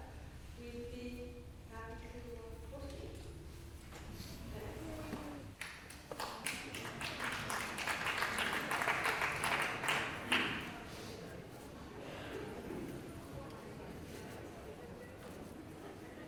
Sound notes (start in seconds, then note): 5.5 applause